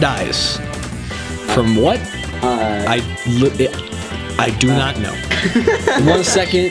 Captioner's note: laughing